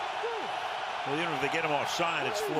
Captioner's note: cheering